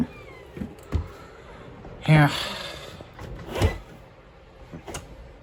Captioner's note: door opens then closes